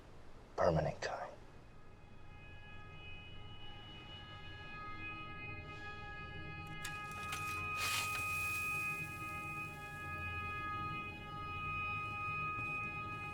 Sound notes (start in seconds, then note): none